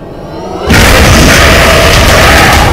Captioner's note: Ghost screaming